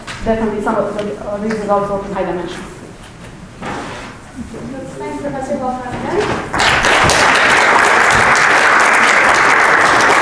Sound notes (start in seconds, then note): 6.4 applause